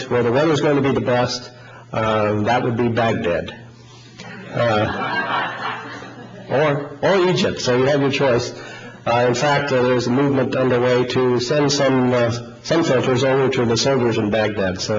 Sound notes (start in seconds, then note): 4.2 audience laughing